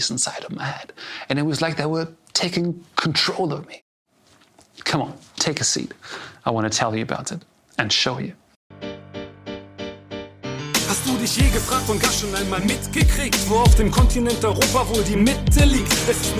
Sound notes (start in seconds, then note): 10.9 in German